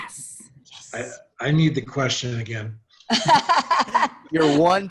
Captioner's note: laughs